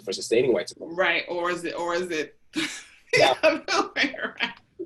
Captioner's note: laughs